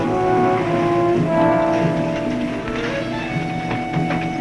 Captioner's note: car engine revving; dramatic music